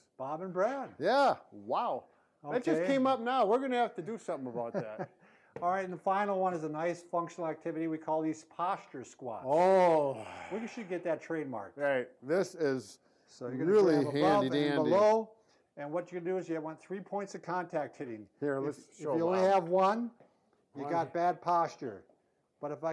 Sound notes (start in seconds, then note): 4.4 laughs